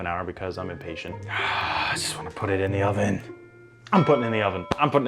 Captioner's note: groans